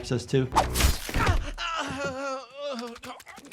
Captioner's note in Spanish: La hoja silba; la criatura gime; la criatura chasquea los labios